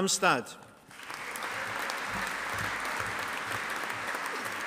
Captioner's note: audience applauding